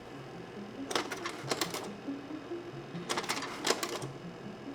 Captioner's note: projector clicks